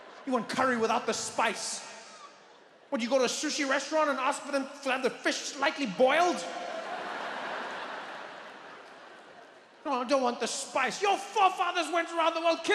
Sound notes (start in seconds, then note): 5.8 audience laughs